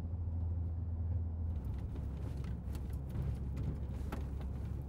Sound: car engine revving

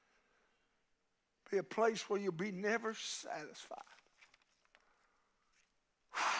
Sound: huffs

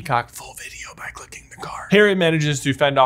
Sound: whispers

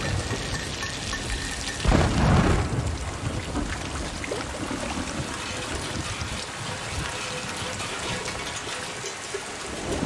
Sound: thunder rumbling

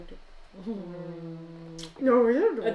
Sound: happy, kissing noises; Imitating Sims

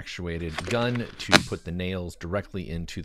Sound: nail gun buzzing

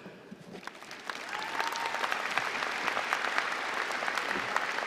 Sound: applause

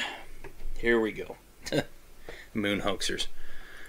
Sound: chuckles

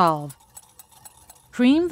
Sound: clanking

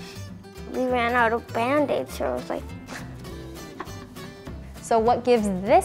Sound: slurps

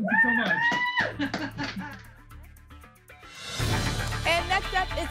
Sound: applause and cheering

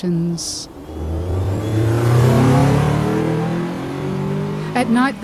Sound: A car revs, dangerously close

